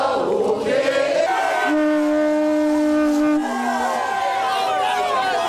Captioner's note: people clamoring